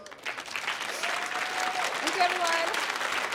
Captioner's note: audience applauding